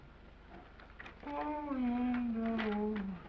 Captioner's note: humming